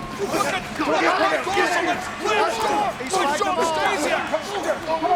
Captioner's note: wrestlers grunting